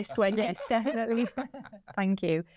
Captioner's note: laughs